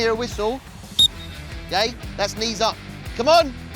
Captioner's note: whistle peeps